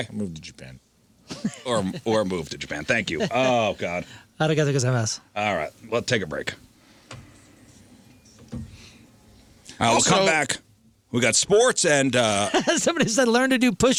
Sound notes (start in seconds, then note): 4.4 speaking foreign language; 8.0 door opens